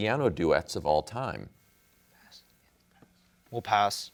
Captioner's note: whispers